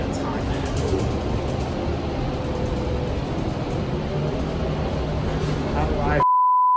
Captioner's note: continues to breathe heavily